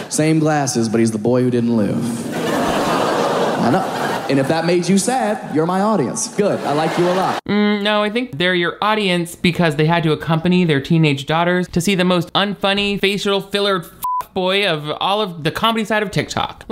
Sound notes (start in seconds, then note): 2.1 audience laughs; 14.0 beep